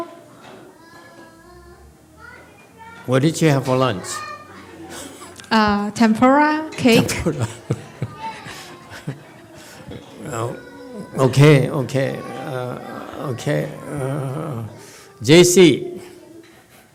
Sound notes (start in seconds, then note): 3.0 laughs under breath; 6.9 laughs